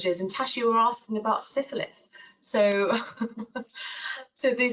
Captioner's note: laughs